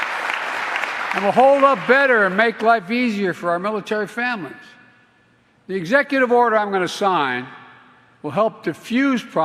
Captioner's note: applause